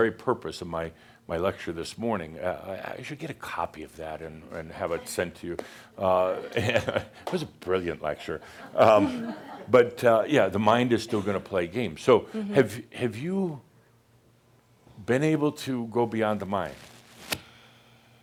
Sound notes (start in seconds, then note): 5.5 Adamus chuckles; 8.5 some chuckles